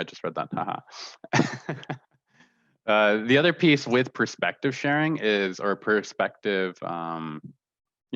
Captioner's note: laughter